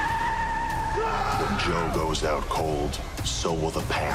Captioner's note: screams